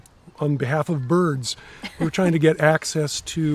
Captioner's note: laughing